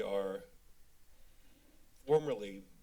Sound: pause

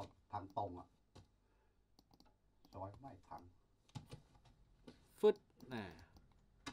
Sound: speaks in a foreign language

